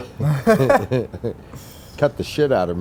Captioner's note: both laugh